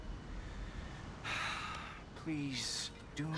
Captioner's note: sigh